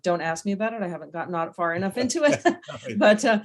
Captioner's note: laughs